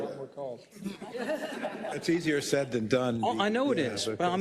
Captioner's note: laugh